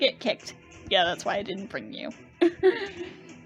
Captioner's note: laughs